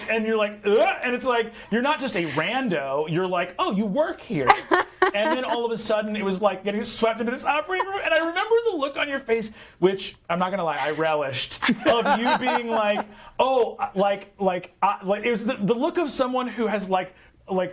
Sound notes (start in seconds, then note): 4.4 laughing; 11.6 others laughing